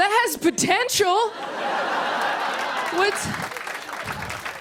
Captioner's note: laughter and applause